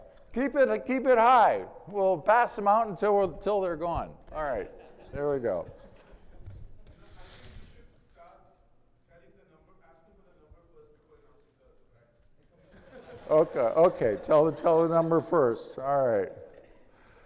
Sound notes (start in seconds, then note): 11.4 faintly speaking; 12.7 audience laughing